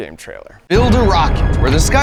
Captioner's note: engine rumbling